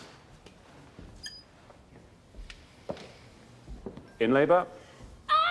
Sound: metal creaking

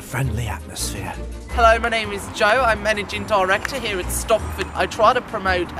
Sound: Australian accent

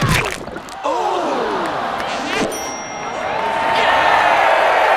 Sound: audience cheering

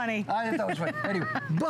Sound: laughter

